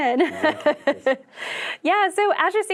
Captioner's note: chuckles